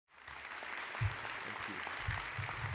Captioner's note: audience applause